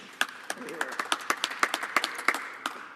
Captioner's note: some applause